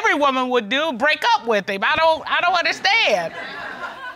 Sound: all laugh

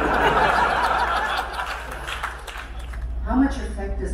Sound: crowd laughter

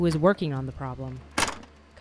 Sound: door opens and closes

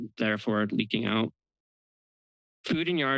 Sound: pause

